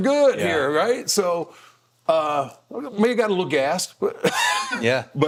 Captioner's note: laughing